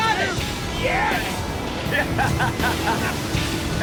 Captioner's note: laughing